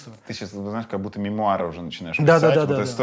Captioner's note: none